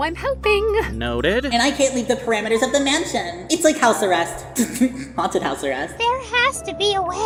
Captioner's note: giggles